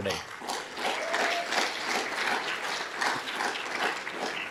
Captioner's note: audience applauding